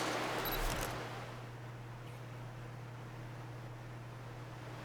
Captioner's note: camera clicks